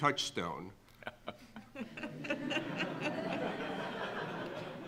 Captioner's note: audience laughing